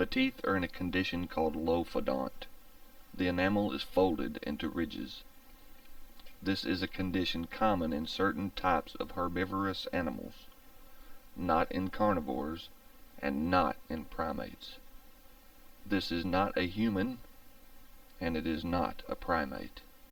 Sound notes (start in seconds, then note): none